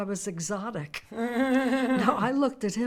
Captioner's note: Fran laughs